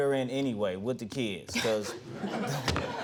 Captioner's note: audience laughing